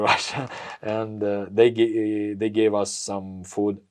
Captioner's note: laughs